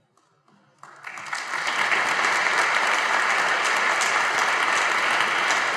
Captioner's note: audience applauding